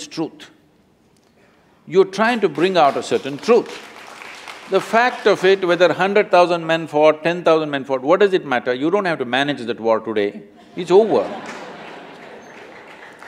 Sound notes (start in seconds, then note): 2.4 applause; 10.9 laughter/Applause